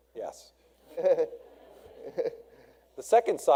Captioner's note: audience laughs